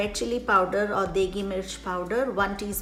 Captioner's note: speaks in foreign language